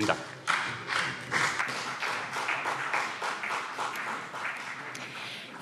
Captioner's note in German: Beifall CDU und BÜNDNIS 90/DIE GRÜNEN